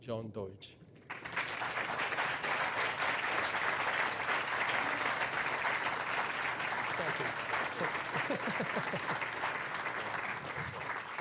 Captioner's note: applause